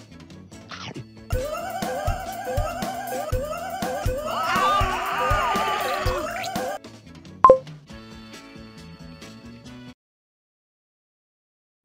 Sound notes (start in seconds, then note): 1.7 ghost wailing; 3.8 shaggy & scooby-doo scream; 7.4 phone beeps